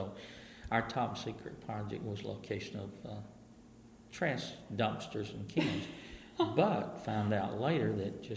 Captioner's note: laughs